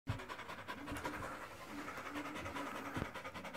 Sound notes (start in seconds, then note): 0.0 dog panting